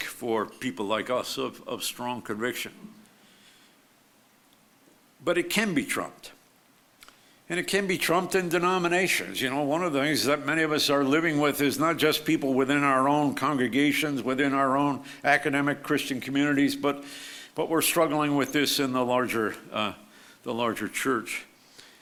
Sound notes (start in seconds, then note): none